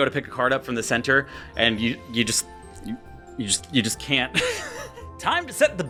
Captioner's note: laughs